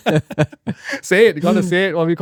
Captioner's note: laughing